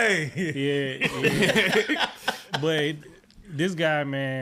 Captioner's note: laughing